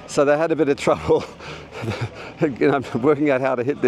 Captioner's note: laughter